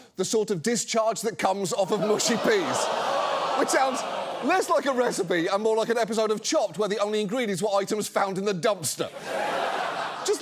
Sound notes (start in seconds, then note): 2.0 audience groans; 9.1 audience laughs